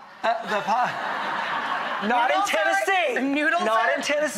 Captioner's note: audience laughs